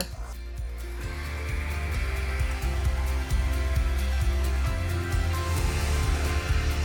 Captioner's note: lively music; hair dryer whirring